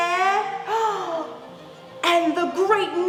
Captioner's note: big breath